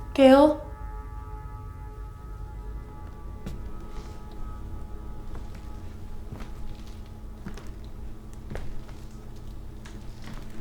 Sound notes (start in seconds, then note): 2.9 footsteps approaching